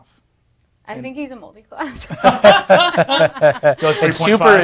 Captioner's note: others laughing